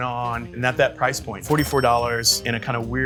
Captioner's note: register bell rings